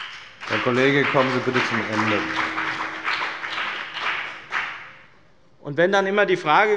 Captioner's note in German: Beifall bei dem BÜNDNIS 90/DIE GRÜNEN und der CDU